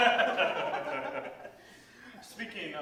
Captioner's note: laughter